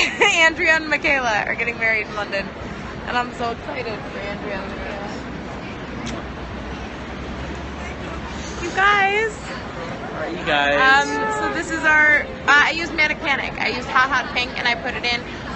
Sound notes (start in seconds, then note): 6.0 kiss sound